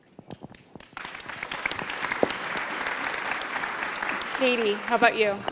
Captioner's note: applause